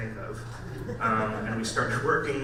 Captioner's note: audience laughs